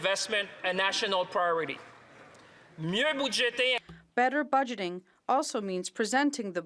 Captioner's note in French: voix de l'interprète